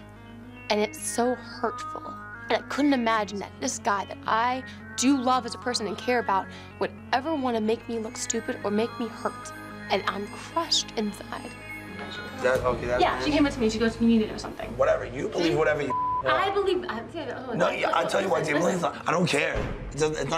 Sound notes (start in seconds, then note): 15.8 beep